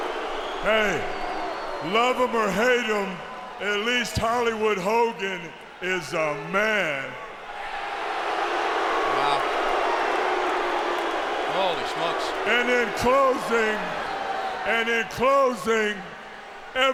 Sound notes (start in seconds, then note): 8.0 crowd booing